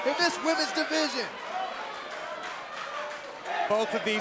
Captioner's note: crowd cheering